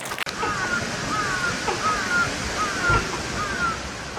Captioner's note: bird cawing